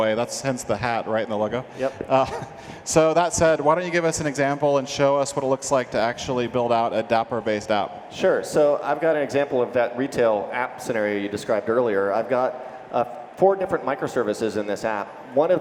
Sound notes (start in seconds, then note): 2.0 chuckles